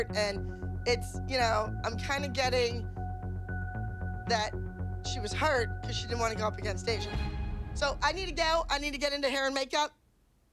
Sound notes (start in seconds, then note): none